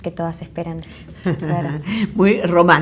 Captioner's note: laugh